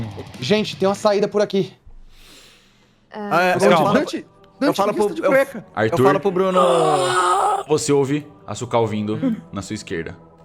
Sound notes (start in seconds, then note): 6.5 arrrgh